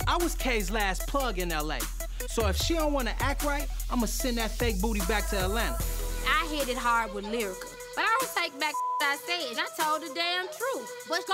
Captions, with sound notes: I was K.'s last plug in LA, so if she don't wanna act right I'ma send that fake booty back to Atlanta. - I hit it hard with Lyrica, but I don't take back (beep) I said. I told the damn truth.